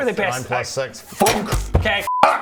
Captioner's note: thunk!